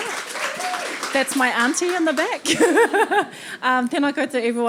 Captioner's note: audience applauding; laughing; laughing